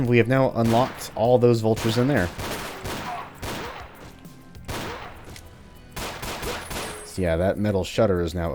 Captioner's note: gunfight ensues